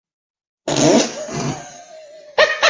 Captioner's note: laughing